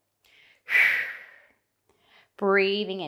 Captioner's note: breathing sharply